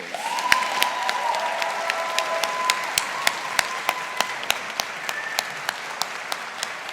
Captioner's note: audience applauding